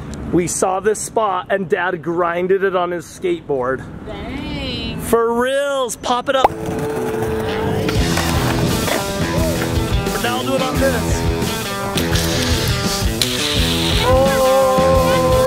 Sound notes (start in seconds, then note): 6.5 skateboard grinding; 7.4 energetic music